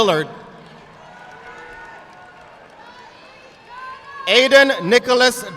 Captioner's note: audience clapping